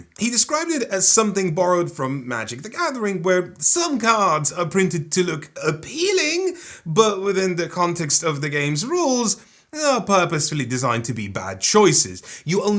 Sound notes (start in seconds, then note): none